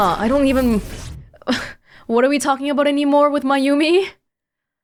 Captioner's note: scoffs